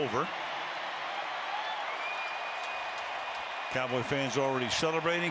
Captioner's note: cheering